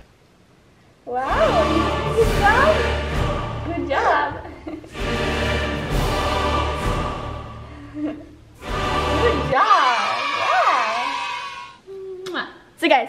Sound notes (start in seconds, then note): 2.9 intense music; 3.8 laughs; 5.1 intense music; 10.0 auto Voice; 12.1 lips kiss